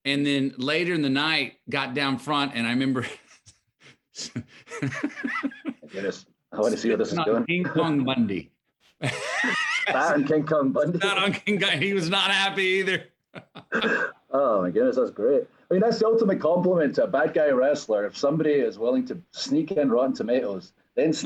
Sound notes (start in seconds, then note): 4.1 laughing; 9.0 laughs; 13.2 Matthew and Drew laughing